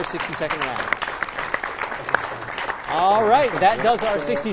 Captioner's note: applause